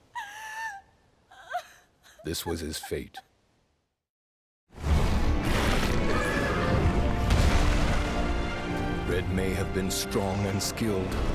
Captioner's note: crying